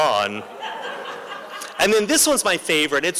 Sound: laughter

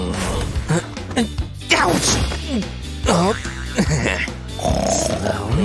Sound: groans; snoring

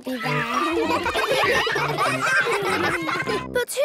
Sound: ruckus

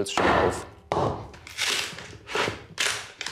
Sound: wood crunches

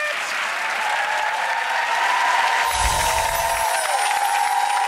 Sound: audience cheering

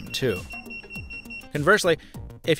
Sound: wallet beeps

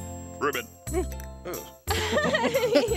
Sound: frog croaking; laughing

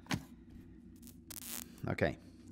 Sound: wires spark

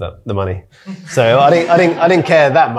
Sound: audience laughing

